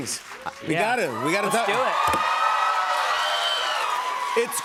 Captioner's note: cheers and applause